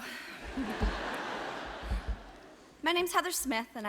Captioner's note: audience laughs